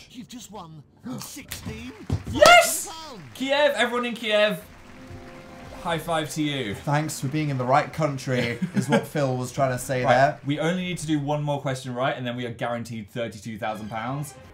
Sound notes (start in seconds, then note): 2.2 high pitched; 8.3 giggle